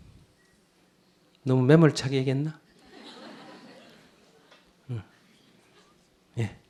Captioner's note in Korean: 청중 웃음